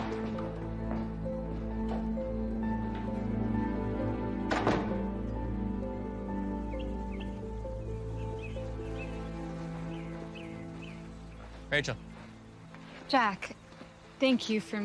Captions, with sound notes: (soft music) (birds chirping) - Rachel. - Jack. Thank you for meeting me.